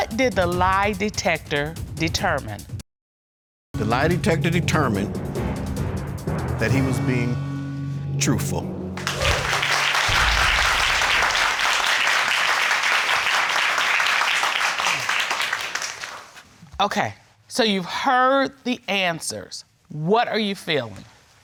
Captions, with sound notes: What did the lie detector determine? The lie detector determined that he was being truthful. (CROWD CLAPPING) Okay. So, you've heard the answers, what are you feeling?